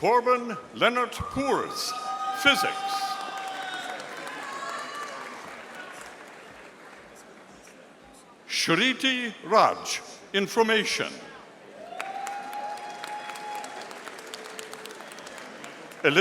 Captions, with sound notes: Torbin Leonard Purs, Physics. (audience applauding) Shariti Raj, Information. (audience applauding)